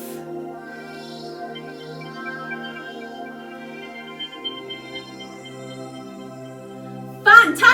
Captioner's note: electronic space sounds